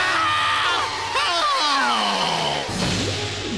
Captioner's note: groans; thud